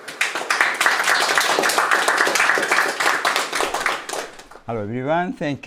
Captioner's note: audience applauding